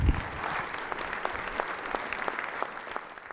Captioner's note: applause